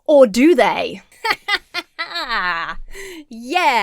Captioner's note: laughs self-confidently